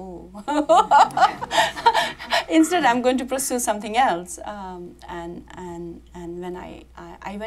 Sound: laughs

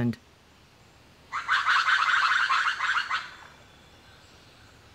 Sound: lemur call

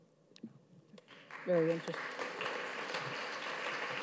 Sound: audience claps

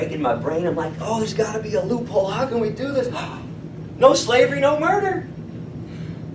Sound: gasp

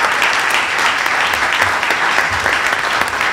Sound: applause

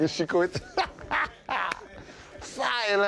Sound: laughing

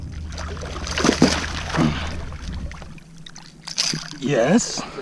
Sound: water splashing

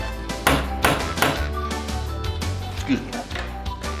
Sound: door knocker thudding

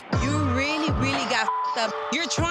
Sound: beep

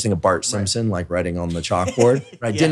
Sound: laughs

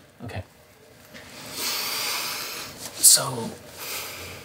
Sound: aggressive inhale

